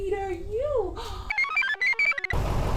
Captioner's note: gasps; computer chirps; engine rumbles